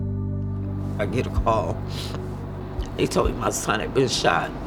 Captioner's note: sniffles